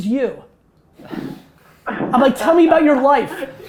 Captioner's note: laughs